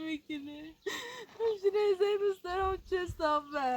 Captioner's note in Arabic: شهيق